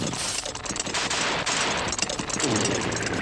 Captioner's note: pow! Pow! Pow!